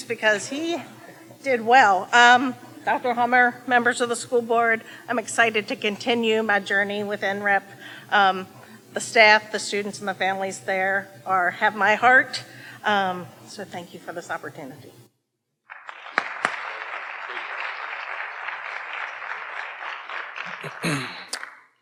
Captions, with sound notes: because he did well. Dr. Hummer, members of the School Board, I'm excited to continue my journey with NREP, the staff, the students, and the families there have my heart, so thank you for this opportunity. (audience applauding) - Thank you.